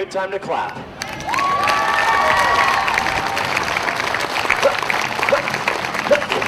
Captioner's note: audience cheering and applauding